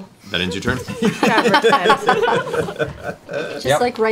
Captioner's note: laughter